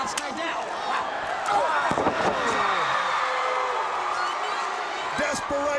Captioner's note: crowd cheering